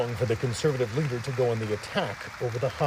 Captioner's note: applause